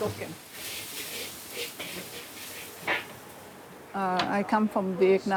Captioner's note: garlic sizzles